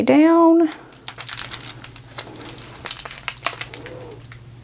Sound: tape rustling

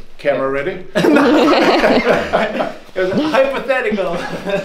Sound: all laugh

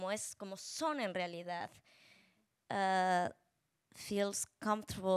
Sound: speaking Spanish

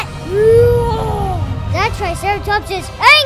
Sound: triceratops roaring

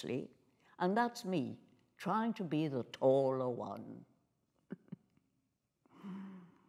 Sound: chuckling

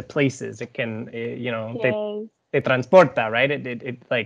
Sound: speaking foreign language

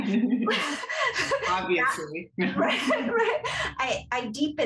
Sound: laughter; laughter

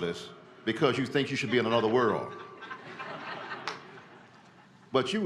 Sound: laughter

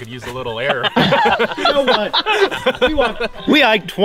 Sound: all laughing

